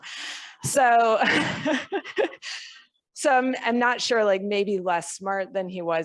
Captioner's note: laughs